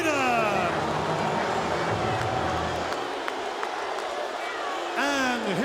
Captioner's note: audience cheering